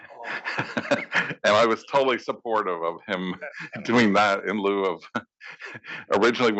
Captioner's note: laugh